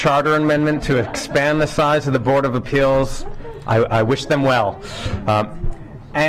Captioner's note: laughter